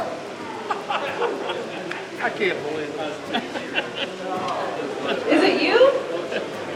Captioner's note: chuckles